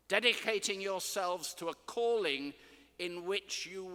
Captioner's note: none